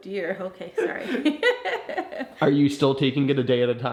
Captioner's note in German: lacht; kichert